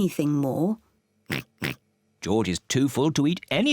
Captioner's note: oinking